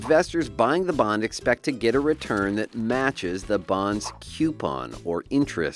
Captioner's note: dollar bills falling